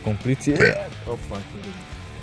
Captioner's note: better burb